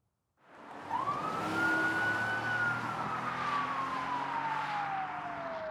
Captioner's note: police siren wailing